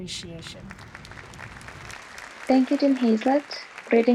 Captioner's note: audience applause